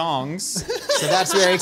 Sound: laughing

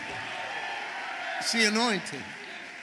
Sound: congregation shouting

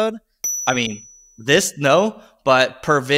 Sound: graphics ding

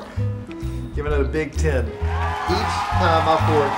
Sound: audience applauding

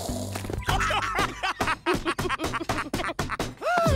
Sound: laughing

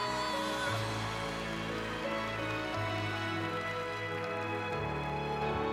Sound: applause

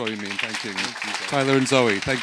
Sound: audience applauding

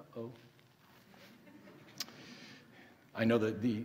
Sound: audience laughing

